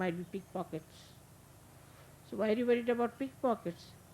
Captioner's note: none